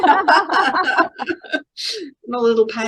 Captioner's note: everybody laughing